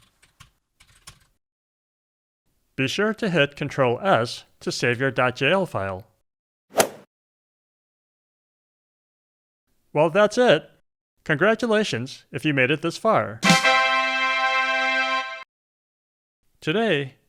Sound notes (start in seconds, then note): 6.7 golf swing sound effect; 13.4 "tadaa" sound effect